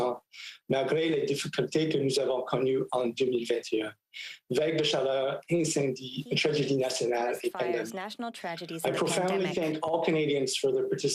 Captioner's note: speaking French